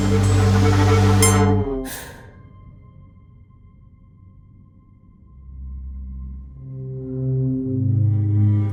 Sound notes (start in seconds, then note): 1.8 character gasps; 5.7 somber music